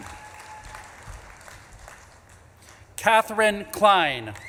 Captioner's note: audience claps and cheers